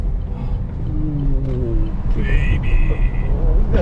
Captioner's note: groans